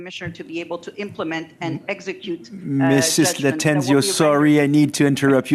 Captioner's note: speaking French